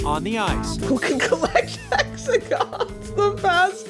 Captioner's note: laughing